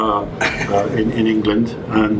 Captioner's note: chuckles